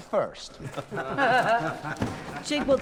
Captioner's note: laughing